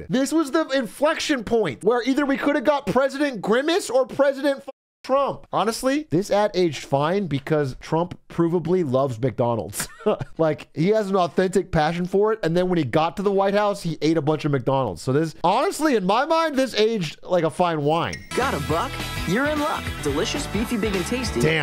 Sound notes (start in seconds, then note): 9.8 laughs